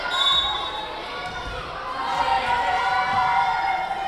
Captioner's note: whistle blowing